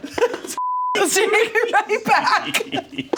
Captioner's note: beep; laughs